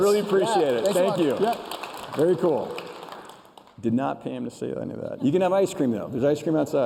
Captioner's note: applause